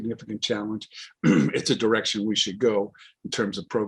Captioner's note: clears throat